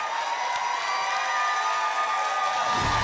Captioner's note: applause and cheering cont